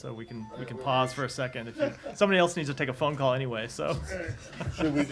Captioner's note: laughter